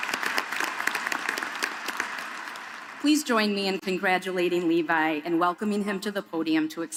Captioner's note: applause